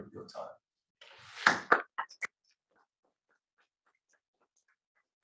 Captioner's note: applause